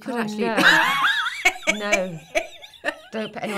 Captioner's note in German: lachen